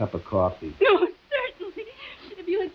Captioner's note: whimpering